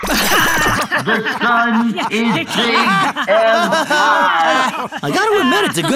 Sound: SMARTIES laughing

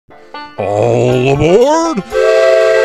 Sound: number train whistles

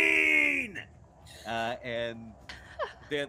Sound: all laughing

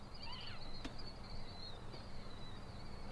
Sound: birds chirping

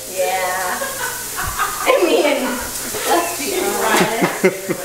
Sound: people laughing

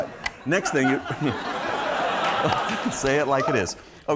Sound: crowd laughs

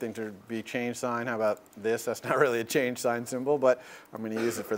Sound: laugh

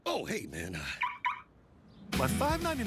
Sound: car beeps

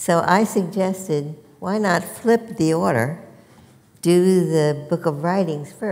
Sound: none

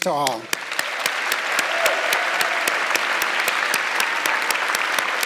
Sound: audience clapping

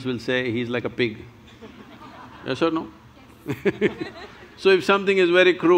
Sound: laughs

